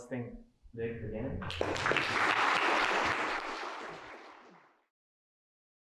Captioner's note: applause